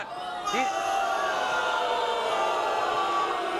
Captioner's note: crowd booing